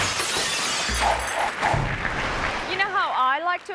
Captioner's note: glass breaking; logo whooshing; audience clapping